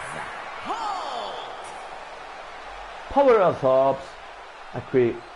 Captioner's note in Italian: Applauso